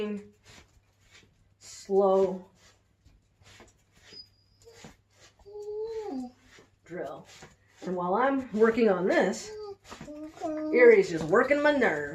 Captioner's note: dog whines